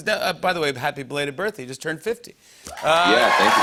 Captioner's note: cheers and applause